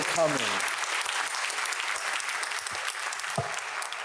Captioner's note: audience applauds